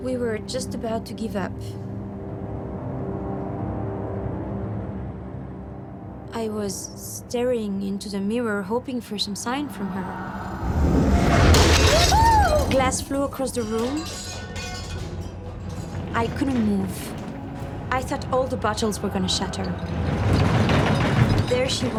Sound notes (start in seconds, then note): 3.4 tense music; 11.3 shattering sound